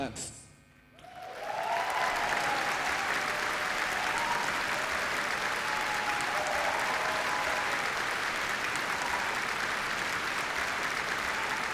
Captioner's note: applause & cheering